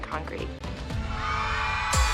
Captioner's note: audience cheering